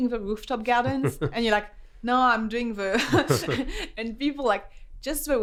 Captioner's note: laughs